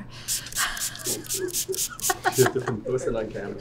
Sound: laughing

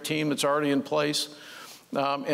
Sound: none

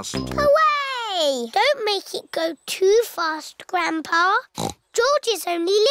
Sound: snorts

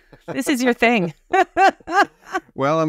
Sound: both laughing

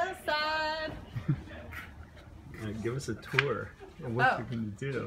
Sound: laughs

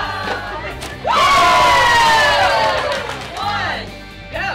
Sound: cheering

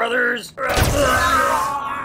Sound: death Screaming

